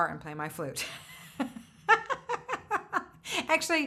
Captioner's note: laughs